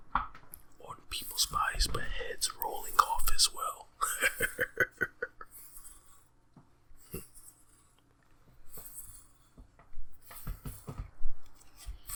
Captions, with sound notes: on people's bodies but heads rolling off as well. (sinister chuckles)